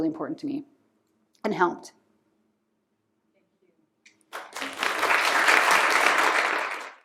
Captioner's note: applause